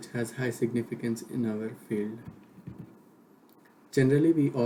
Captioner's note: click